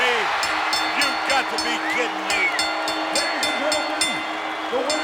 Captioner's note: bell rings